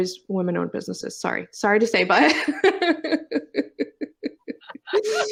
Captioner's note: laughs